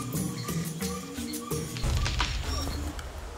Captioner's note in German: Knacken